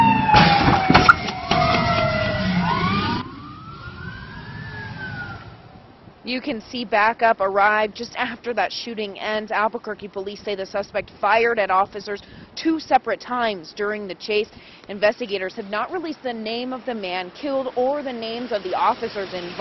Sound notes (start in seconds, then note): 1.7 sirens